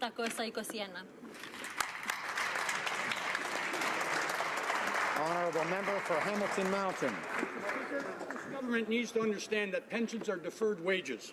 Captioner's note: speaking Alternate Language